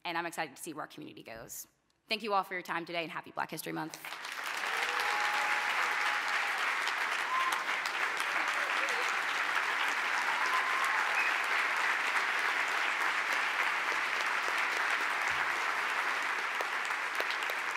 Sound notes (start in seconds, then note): 3.9 applause